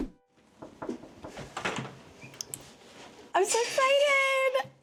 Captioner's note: door knocking